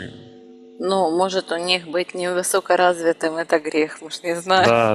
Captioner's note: laughing